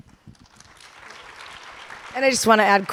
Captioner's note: audience applauding